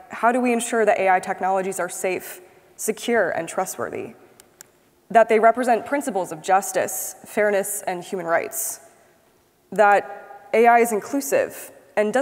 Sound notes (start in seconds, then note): 4.4 mouse clicks